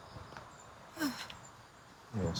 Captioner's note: woman sighs